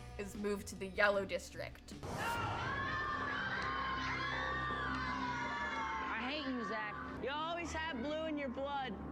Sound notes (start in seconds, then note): 1.7 kids yelling 'NO'